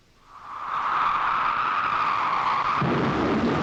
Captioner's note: wind howling